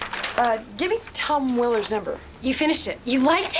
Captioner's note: none